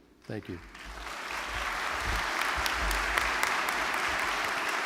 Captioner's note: applause